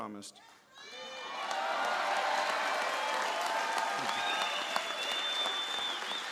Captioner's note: applause